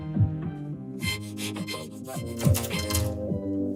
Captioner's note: panting frantically